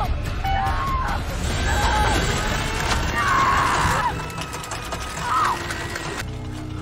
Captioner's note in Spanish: gritando; ruido mecánico